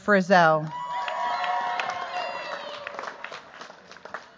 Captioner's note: cheers, applause